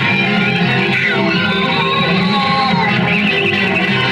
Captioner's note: grunting